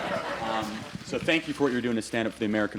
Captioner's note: laughter